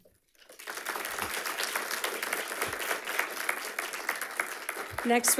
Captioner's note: audience applauding